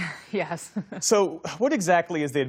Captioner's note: laughter